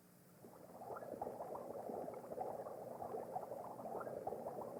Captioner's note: bubbling sounds